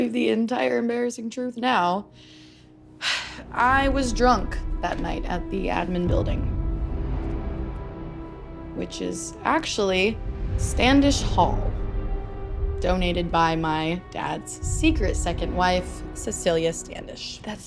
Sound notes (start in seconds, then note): 3.0 sighs; 6.6 ominous music